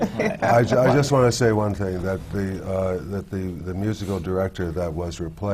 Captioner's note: laughter